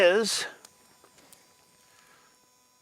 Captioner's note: fire crackling